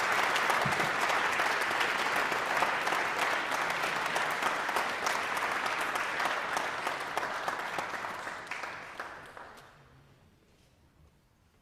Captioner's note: applause